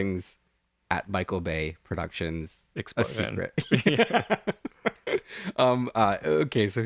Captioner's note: laugh